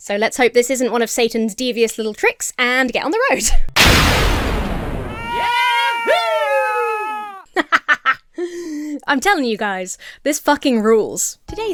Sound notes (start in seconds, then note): 3.8 magic whooshes; 4.8 Joshua screams; 7.5 Emma laughs